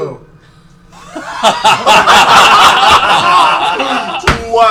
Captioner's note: laughter